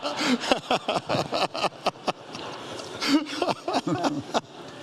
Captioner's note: audience laughs